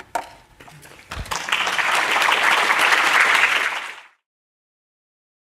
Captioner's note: applause